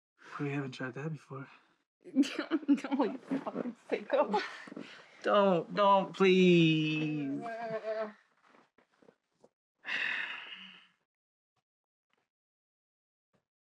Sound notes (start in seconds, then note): 2.1 she laughs; 7.4 she groans; 9.6 he sighs